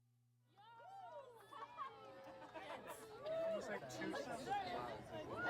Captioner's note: crowd chattering indistinctly